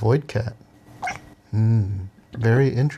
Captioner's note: kitty chirps